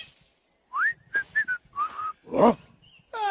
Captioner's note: whistling